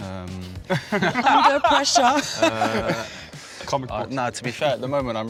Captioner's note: friends laughing